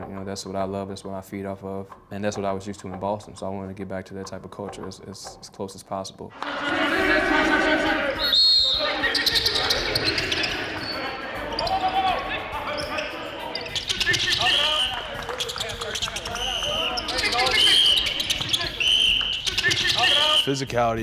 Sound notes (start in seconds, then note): 6.5 aggressive chanting; 8.2 whistling; 9.0 chattering and squeaking